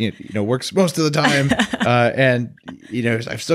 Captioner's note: laughs